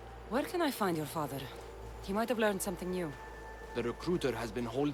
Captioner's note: none